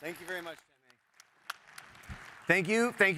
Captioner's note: applause